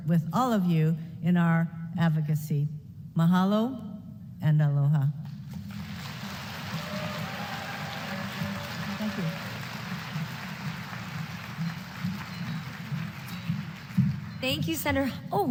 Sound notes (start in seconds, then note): 5.4 applause